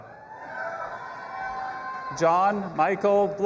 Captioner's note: audience applauding and cheering